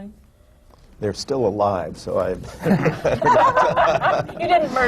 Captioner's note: laughter